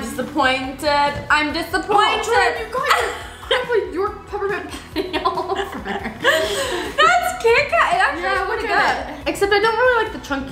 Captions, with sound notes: - I'm disappointed, I'm disappointed. - Oh Jordan you got your York Peppermint Patty all over. - (laughs) That's Kit Kat? It actually is pretty good. Except I don't really like the chunkies in it,